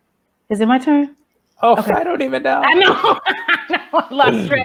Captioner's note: laughs